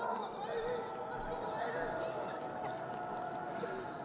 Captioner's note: crowd cheering